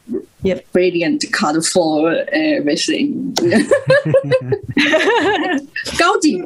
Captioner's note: risas